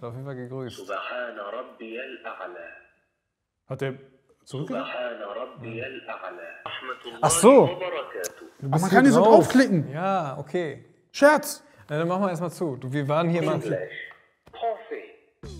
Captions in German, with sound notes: Er hat auf jeden Fall gegrüßt. (Stimme aus Gerät) Hat er zurück ... (Stimme aus Gerät) Ach so! - Man kann hier so draufklicken. Ja, okay. - Scherz! Machen wir erst mal zu. Wir waren hier. "English."